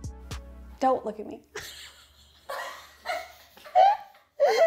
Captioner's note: laughs